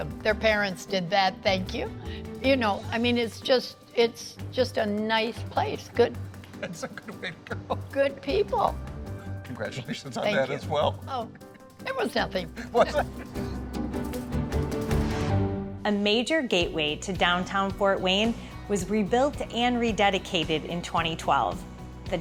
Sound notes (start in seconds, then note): 12.6 both laughing; 13.8 upbeat music